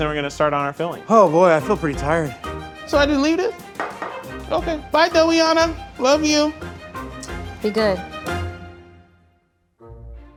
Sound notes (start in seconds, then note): 3.7 bowl clunking; 6.4 upbeat music continues; 7.5 lips smacking